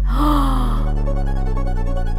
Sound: gasps; dramatic techno music

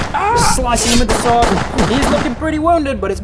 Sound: pew pew pew pew

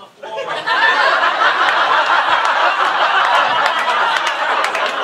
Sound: audience laughing

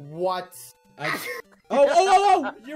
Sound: sneeze Laughs

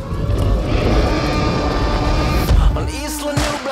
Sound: dinosaur roaring

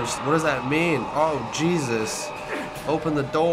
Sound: Walrider hisses; grunts

